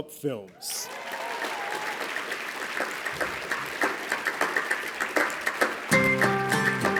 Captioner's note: applause